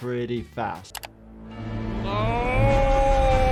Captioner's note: clicking; dramatic orchestral music